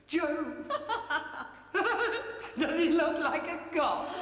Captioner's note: both laugh